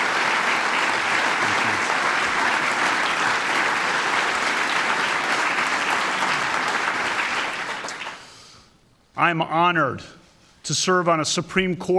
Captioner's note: applause